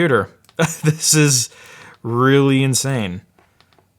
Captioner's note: laughs